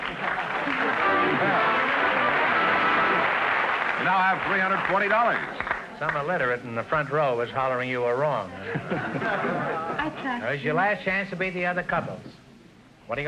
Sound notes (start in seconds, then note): 0.0 triumphant music & applause; 8.6 audience laughter